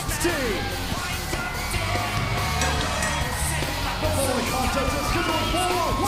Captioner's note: bell ringing